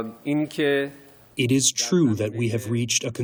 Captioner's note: through translator